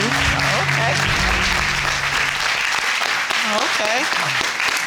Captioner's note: audience applauding